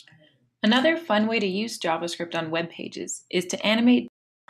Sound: voiceover

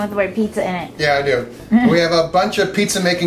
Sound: laughs

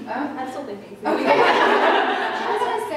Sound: laughter

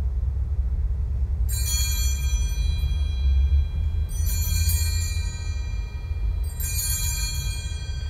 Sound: bells ring three times

